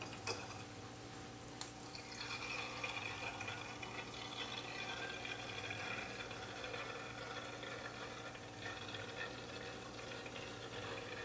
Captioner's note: gurgling as the bottles fill with wine